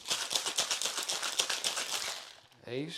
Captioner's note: ice shaking